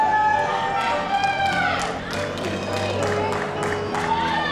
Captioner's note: cheering